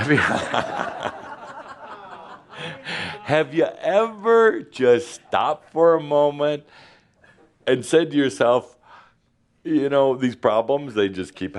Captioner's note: laughter